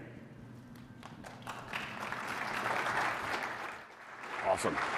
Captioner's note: applause